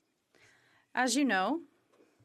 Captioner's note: speaking French